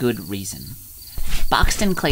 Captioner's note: swift drawing sounds